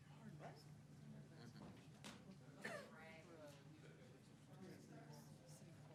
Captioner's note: chattering in the background